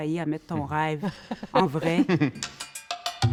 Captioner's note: laughter